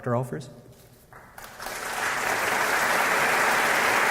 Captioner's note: applause